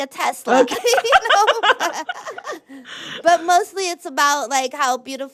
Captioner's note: laughter